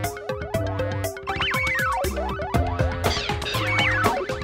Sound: video game sound effects

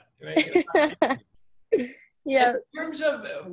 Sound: laughs

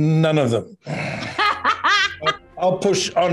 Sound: Ming-Na laughs

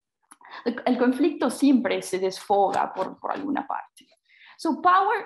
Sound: speaks in foreign language

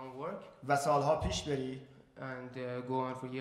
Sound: speaking in farsi

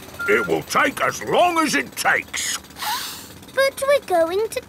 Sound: sniffs

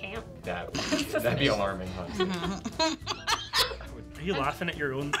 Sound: laughing

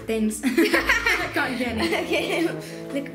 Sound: laughs

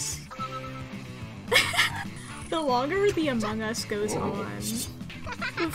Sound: giggles

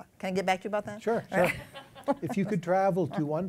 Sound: laughter

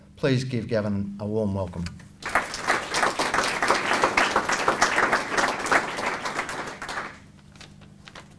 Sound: applause

